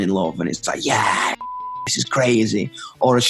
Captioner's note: beep